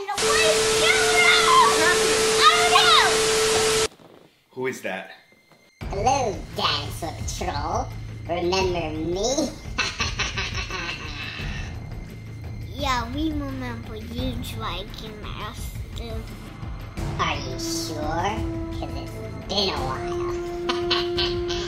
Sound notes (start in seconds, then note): 0.0 static crackles; 1.9 TV beeping; 6.2 high pitched mechanical voice; 9.7 evil laughing; 20.5 evil laugh